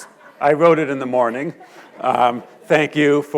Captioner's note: audience chuckles